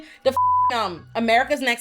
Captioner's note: beep